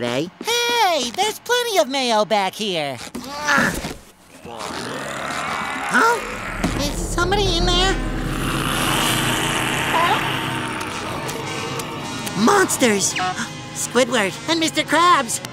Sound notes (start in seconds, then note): 3.1 grunting; 4.4 growling; 8.5 growling